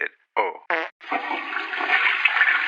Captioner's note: toilet flushes